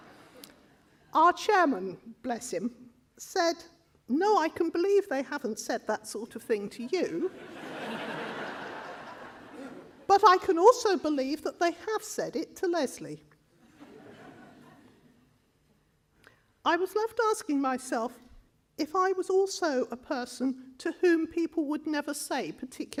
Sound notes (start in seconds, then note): 7.4 more laughter